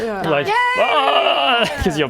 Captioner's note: ribbet